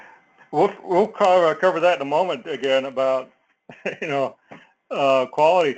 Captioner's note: laugh; laugh